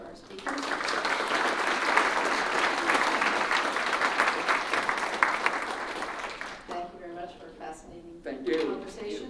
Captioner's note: applause